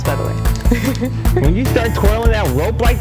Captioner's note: laughs